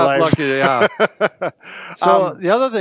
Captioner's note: chuckles